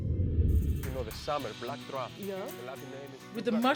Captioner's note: chatting in background